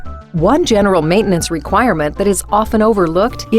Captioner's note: voiceover